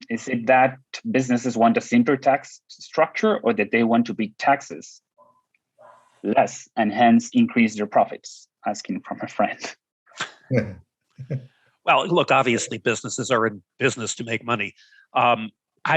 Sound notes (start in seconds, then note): 11.2 laughing